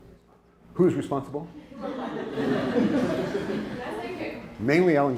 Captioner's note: laughter